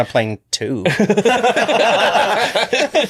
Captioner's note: all laughing